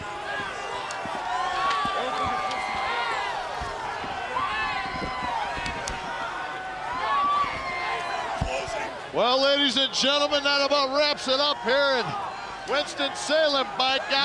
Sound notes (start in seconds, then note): 0.2 crowd cheering; 0.2 wrestlers faintly speaking; 5.3 crowd cheering; 5.3 wrestlers faintly speaking